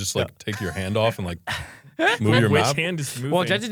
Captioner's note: laughs